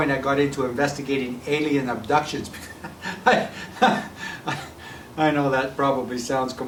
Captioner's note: laughing